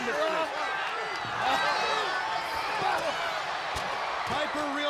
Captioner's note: crowd cheering